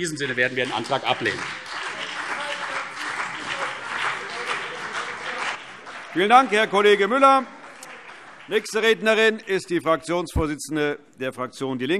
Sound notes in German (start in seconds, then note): 1.6 Beifall CDU und BÜNDNIS 90/DIE GRÜNEN